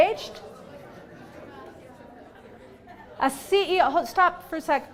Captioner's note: students talking in background